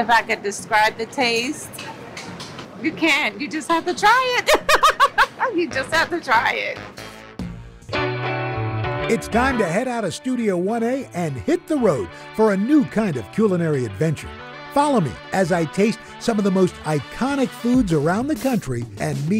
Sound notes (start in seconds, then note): 4.4 laughs